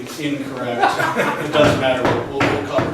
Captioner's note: laughs